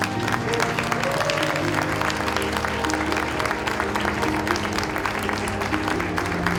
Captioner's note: audience applauding and cheering